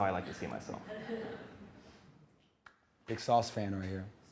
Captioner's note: audience laughing